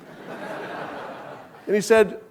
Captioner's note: audience laughing